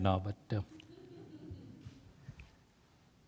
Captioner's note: laugh